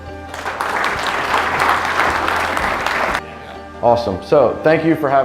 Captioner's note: audience applause